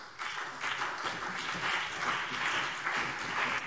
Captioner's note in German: Beifall BÜNDNIS 90/DIE GRÜNEN und CDU